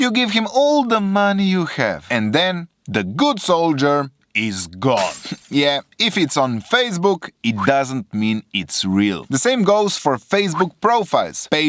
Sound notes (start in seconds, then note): 4.9 glass shattering